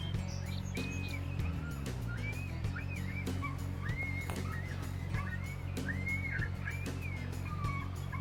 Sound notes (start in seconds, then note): 2.6 coyote call starts